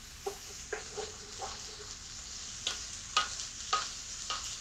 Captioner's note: spoon stirring